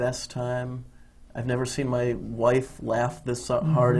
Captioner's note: laughs